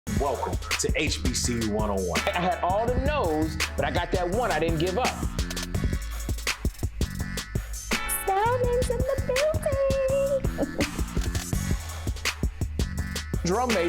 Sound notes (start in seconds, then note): 5.9 hip hop music; 9.8 laughs; 12.5 hip hop music